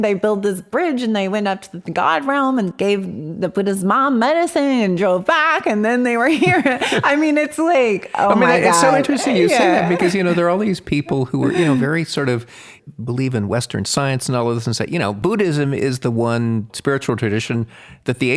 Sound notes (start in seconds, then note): 6.3 laughs